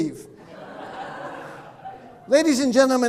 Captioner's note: audience laughing